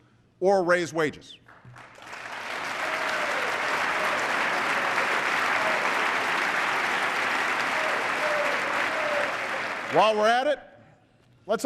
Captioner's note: applause